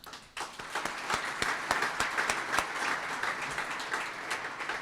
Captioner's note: audience applauds